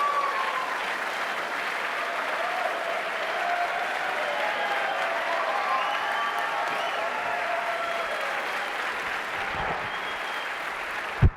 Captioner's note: applause